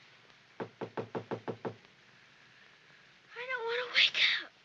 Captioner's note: knocking at window